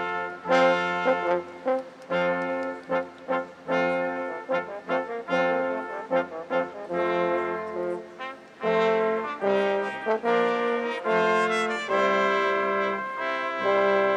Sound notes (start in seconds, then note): none